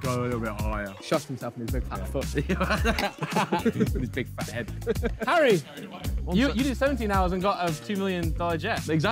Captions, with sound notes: - Yeah, he thought lets go a little bit higher. - Shot himself in his big fat foot. [Ethan laughing] - In his big fat head. - Harry, you did 17 hours and got a 2 million dollar jet.